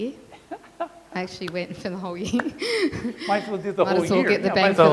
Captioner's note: laughs